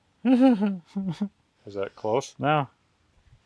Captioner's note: chuckling